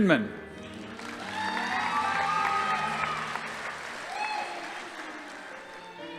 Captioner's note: audience applauding; crowd cheering